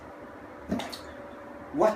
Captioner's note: bloop